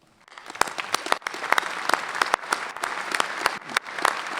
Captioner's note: clapping